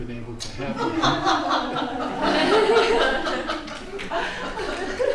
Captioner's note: laughter